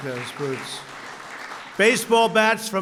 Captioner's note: applause